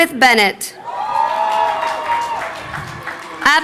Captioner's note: crowd cheering